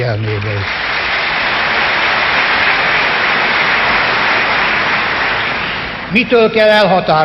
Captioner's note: applause